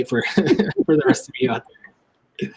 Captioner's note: laughs